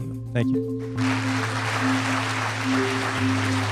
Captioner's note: applause